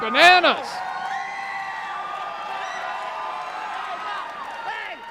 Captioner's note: crowd cheering